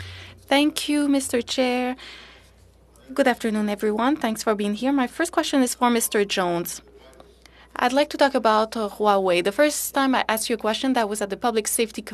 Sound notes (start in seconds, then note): 3.5 speaking French